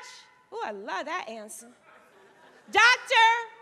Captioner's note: audience laughing